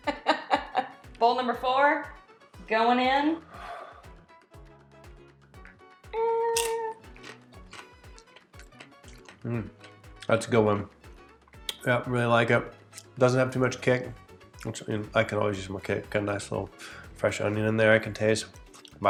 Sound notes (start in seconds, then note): 0.4 laughs; 6.5 chip crunches